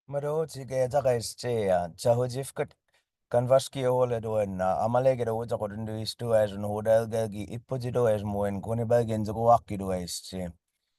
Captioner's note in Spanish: hablando en Muscogee